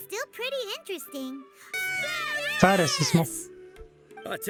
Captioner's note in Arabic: هتاف الجمهور